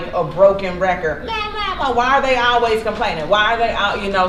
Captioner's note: whines